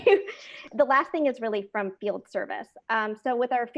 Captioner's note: laugh